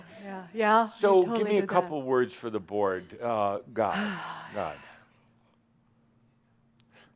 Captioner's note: she sighs deeply